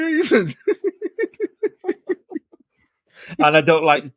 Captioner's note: laughing